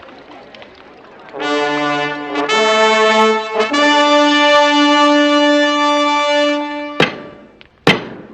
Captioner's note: horns blowing; tapping